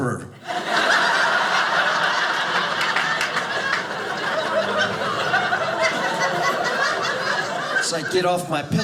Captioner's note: audience laughing